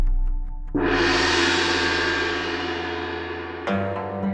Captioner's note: gong noise